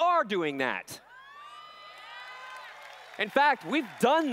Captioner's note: cheers